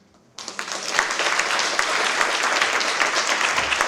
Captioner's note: applause